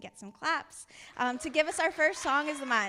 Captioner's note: audience applauding